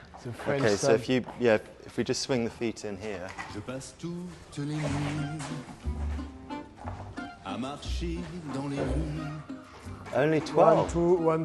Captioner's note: laughs